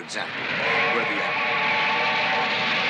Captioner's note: train whistle blows